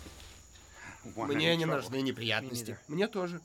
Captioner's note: laughing